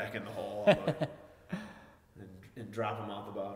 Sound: laughing

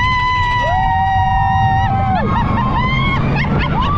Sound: both screaming

